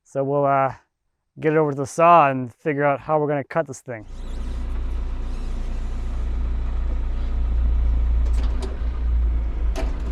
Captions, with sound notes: So, we'll get it over to the saw and figure out how we're gonna cut this thing. (engine purring)